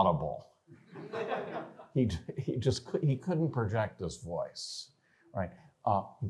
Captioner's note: laughter